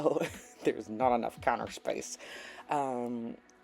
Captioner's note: through clenched teeth